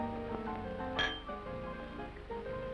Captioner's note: glasses clink